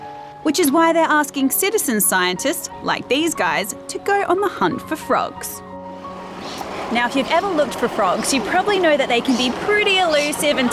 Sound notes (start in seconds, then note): none